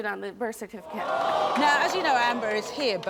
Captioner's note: audience groans